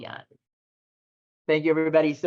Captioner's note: video begins no audio